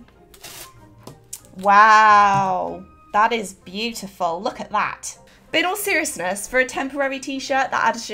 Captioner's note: sarcastically